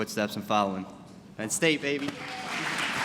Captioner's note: applause